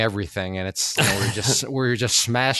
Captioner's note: laughs